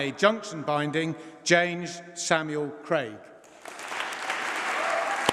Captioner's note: applause